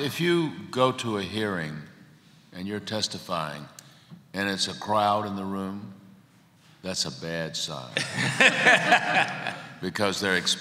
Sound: laughter

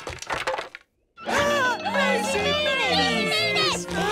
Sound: gasps

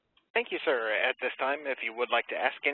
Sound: voiceover

